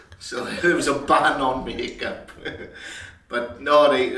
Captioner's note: laughs; laughs